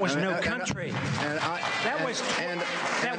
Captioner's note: applause